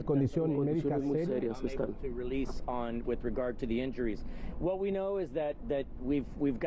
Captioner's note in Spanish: habla en ingés